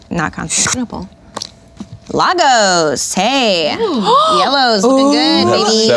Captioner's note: gasps